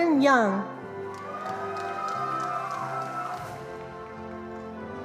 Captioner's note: attendees applauding